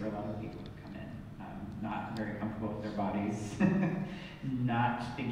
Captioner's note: laughs